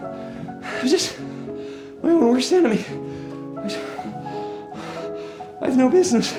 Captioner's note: panting